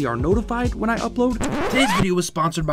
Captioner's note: record scratch